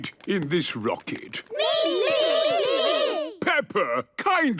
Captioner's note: calling out in turn